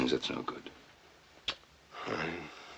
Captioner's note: clicks tongue